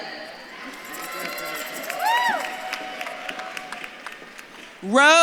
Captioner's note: audience claps and cheers